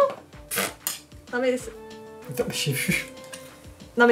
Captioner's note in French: rires